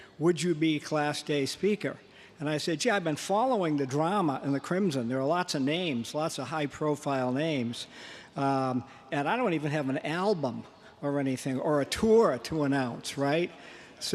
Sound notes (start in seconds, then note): none